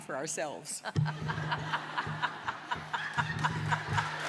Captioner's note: laughter; applause